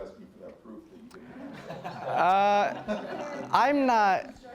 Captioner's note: audience laughing